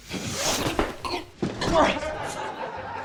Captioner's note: grunts; laughter